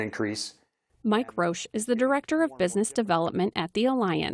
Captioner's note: voice-over